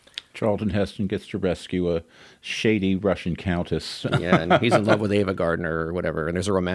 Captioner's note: laughs